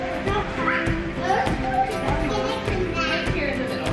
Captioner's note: folk music; children talking